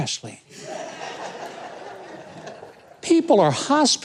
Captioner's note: audience laughing